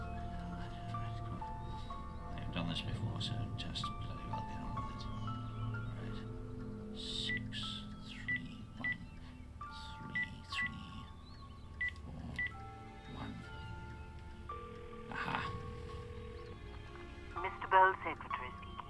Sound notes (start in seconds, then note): 8.2 phone beeping; 14.2 phone ringing